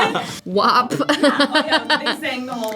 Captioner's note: laughs; both laugh